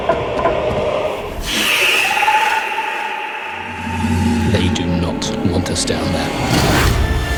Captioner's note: creature screeches